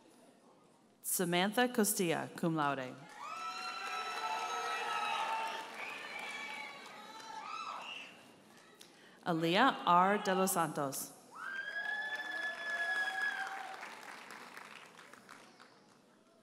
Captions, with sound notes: Samantha Castilla, cum laude. (audience cheers and applauds) Aaliyah R. De Los Santos. (audience cheers and applauds)